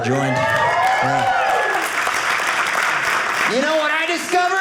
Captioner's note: audience cheering